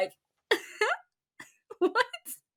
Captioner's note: high pitched laugh